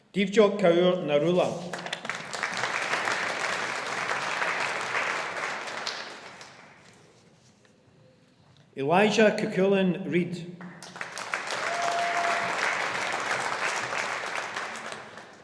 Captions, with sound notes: Divjot Kaur Narula (AUDIENCE APPLAUDING) Elijah Cuchulainn Reid (AUDIENCE APPLAUDING)